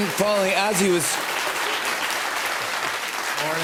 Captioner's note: applause